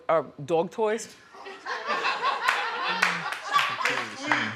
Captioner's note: audience laughing